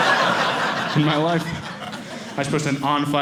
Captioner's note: audience laughing